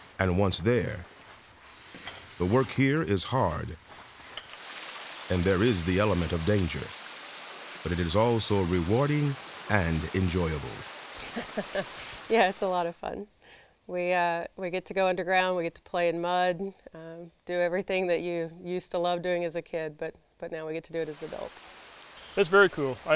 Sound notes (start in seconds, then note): 11.2 laughs